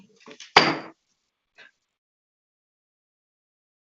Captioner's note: gavel taps